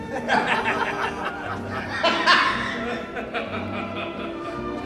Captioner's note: attendees laughing derisively